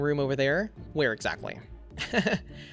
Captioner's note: laughs